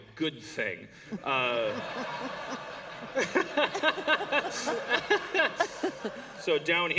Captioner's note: laughter